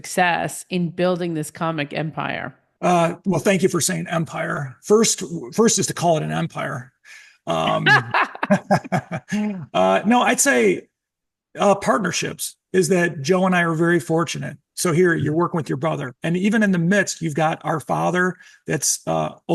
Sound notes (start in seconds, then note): 7.6 laughing